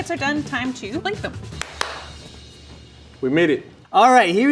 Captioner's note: claps